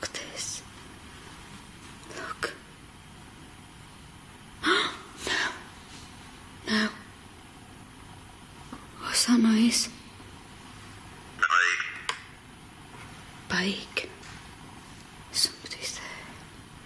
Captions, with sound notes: Look at this, look. (gasping) No, no. What's that noise? (OVILUS buzzing) Bike, somebody's there.